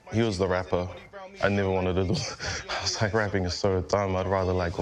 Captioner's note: laughs